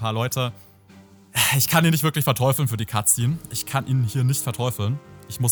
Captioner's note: sigh